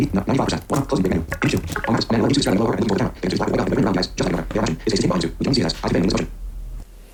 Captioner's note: extremely fast speaking